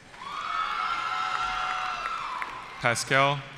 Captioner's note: cheering